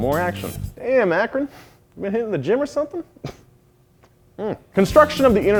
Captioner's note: laughs